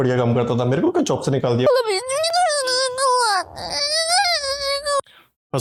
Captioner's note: whining in russian